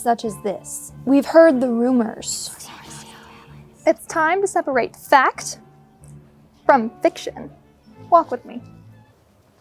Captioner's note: whispering